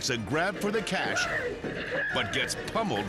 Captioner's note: clerk screaming